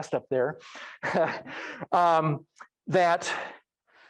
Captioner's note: laughs